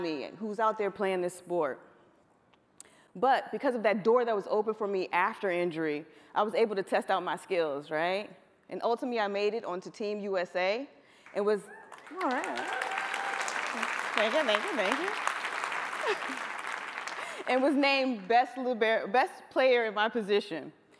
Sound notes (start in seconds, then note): 15.4 applause